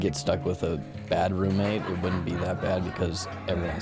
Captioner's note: background laughter